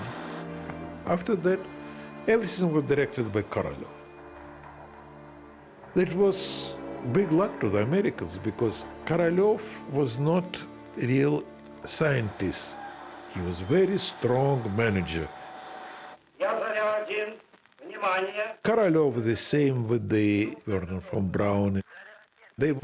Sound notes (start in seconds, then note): 15.9 speaking Russian